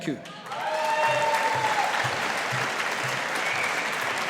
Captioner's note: audience applauding